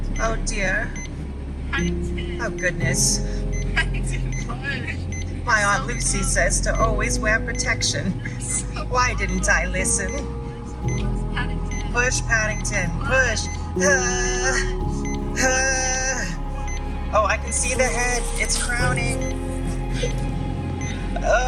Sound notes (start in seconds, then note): 14.5 groaning/pushing noises